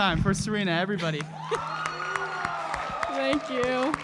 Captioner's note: cheering